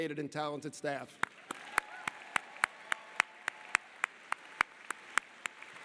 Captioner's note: audience applauding